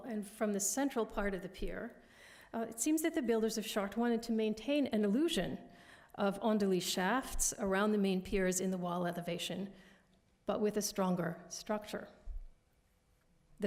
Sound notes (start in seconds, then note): 6.4 french